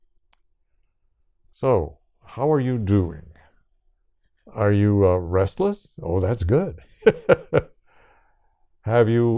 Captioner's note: laughs